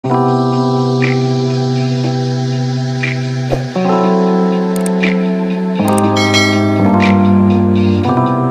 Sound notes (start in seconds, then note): 0.0 chilled out music; 4.8 mouse clicking; 6.2 bell dinging